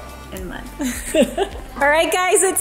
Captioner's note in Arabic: ضحك